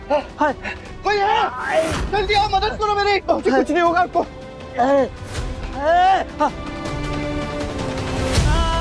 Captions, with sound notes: Is anyone there? Come quickly and help me! Father, you'll be fine. [Dilpreet screaming]